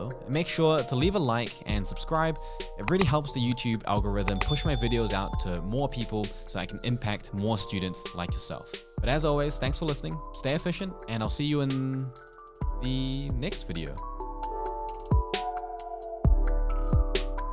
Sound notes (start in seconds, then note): 4.2 clicks and dings; 14.7 mellow music